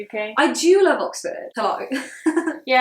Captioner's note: chuckles